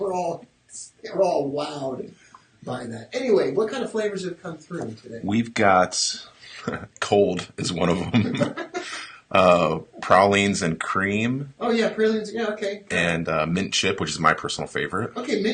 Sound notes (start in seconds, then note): 7.9 laughing